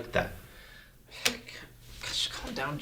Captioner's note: sigh